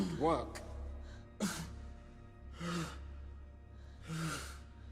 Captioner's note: Lucian panting